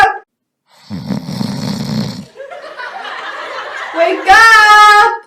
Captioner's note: snoring